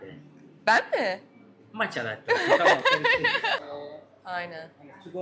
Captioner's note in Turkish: kahkaha